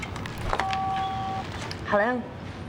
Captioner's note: beeps